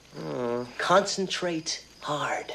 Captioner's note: Raphael groans